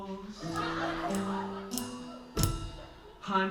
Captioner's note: laughter